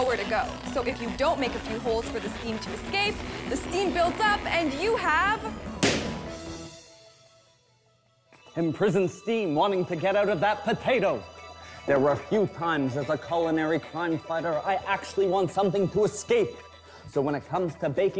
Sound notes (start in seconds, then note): 5.8 balloon pops